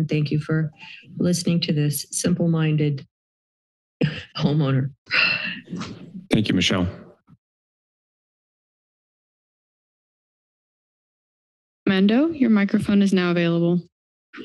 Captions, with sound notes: Thank you for listening to this simple-minded homeowner. [breathes] - Thank you, Michelle. - Armando, your microphone is now available.